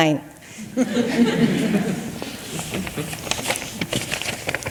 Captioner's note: audience chuckles